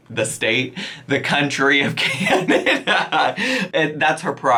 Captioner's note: laughs